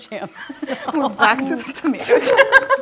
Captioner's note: laugh; laughs